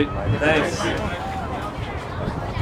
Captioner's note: crowd chattering